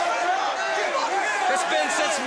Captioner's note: crowd chatter